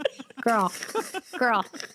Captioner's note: laughter